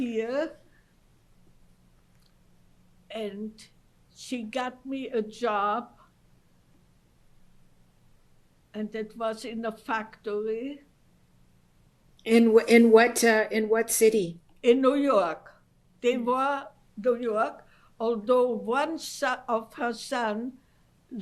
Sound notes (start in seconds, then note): 0.2 pauses for 3 seconds; 6.0 pauses for 3 seconds